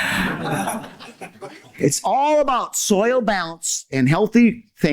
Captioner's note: laughter